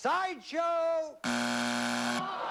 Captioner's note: buzzer